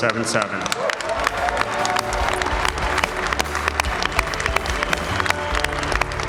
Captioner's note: public applaudit